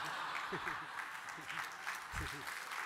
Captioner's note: laughter; applause